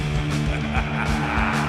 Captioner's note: King Howl cackles